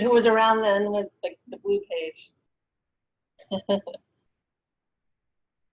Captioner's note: laughs